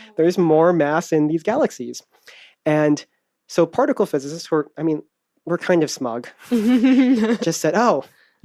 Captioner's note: laughs